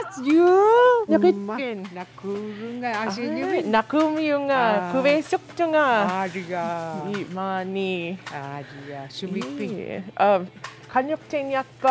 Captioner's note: speaking iñupiaq